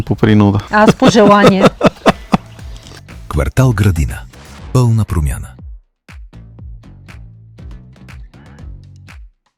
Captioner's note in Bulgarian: смях